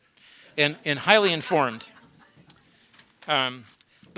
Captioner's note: laughter